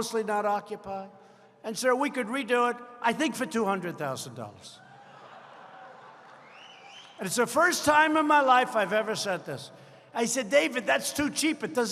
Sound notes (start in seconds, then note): 6.2 applause